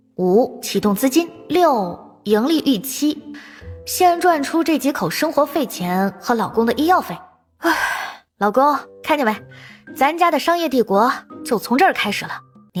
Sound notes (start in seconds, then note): 7.6 sigh